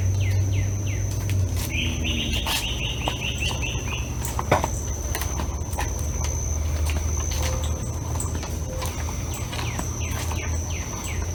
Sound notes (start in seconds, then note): 5.6 birds chirping; 5.6 footsteps tapping